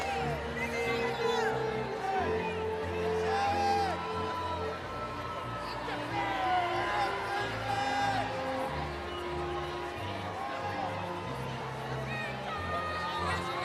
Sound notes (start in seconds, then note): 3.5 cheering continues; 3.5 inspirational music